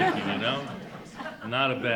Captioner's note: audience laughing